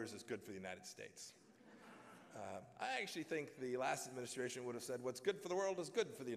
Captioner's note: laughter